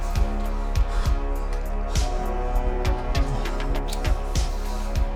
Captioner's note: both panting and moaning